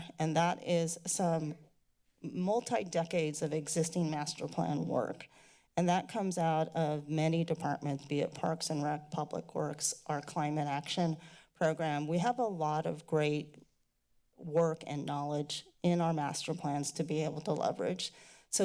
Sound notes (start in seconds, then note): none